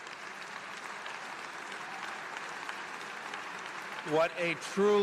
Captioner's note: applause